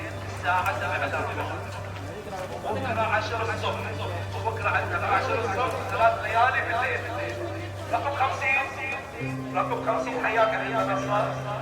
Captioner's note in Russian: голос на арабском